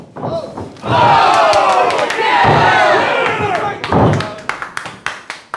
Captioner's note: audience cheering